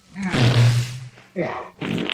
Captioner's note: farts; farts Again